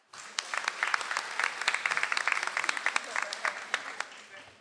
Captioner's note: audience applauds